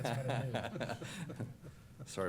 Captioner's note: laughter